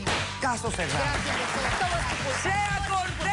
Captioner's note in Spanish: Aplausos